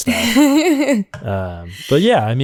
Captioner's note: laughter